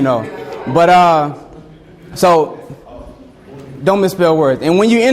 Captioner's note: students chattering